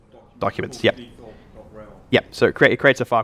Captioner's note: voiceover